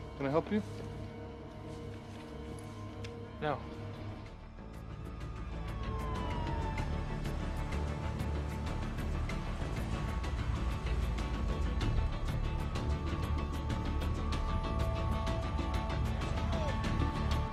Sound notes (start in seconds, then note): 4.7 dramatic music; 5.8 sirens wailing